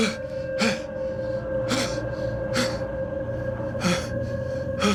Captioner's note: gasping; heavy breathing